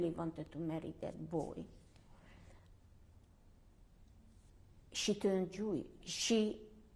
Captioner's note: pauses for 3 seconds